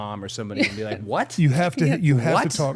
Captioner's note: participant chuckling